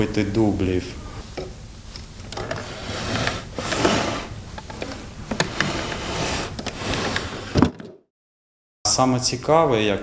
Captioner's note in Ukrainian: звук відкриття шухляди